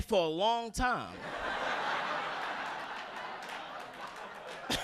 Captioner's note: audience laughing